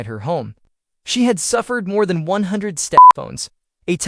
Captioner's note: beep